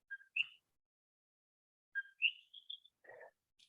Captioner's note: bird chirping